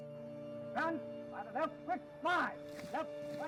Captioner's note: yells in foreign language